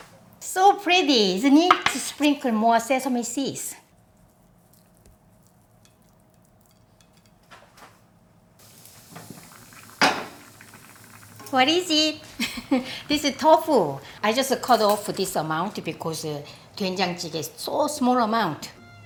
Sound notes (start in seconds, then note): 12.3 laughs